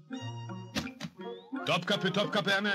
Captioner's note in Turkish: arabanin kapisinin açilma sesi̇